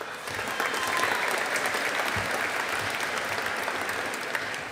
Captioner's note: audience applauding